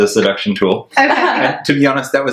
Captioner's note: laughs